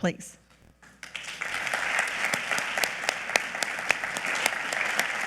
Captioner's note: audience clapping